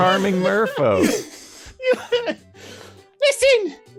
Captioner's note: laughing